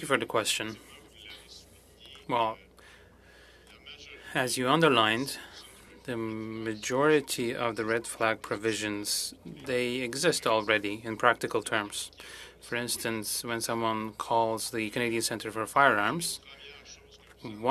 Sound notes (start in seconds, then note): 2.9 speaking french